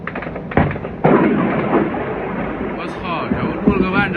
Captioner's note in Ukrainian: вибух